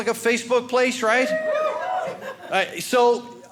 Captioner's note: audience cheering